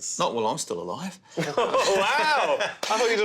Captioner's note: all laughing